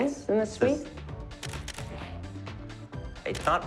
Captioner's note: camera shutter clicking